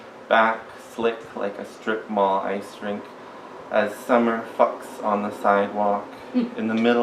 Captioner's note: brief giggles